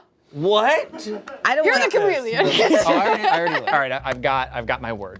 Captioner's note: laughs